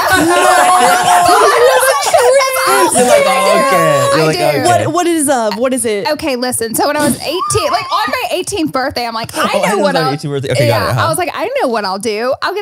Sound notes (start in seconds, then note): 0.0 everyone laughs